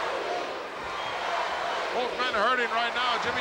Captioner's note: audience cheering